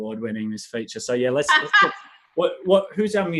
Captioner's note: laughs